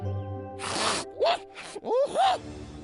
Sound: snorting

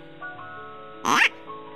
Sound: quack

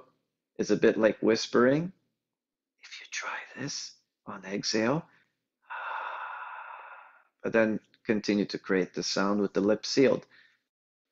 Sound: whispered

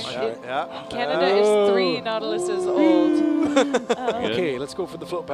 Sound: group wooing

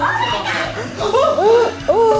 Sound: gasps

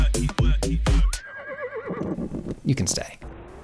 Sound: runway music; distant horse whinnying

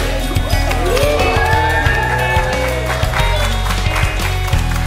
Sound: cheers and applause

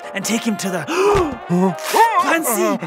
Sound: both gasp

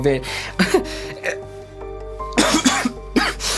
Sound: coughing

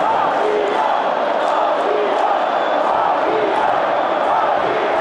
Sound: fans screaming

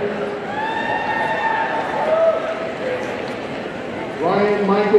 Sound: audience cheering

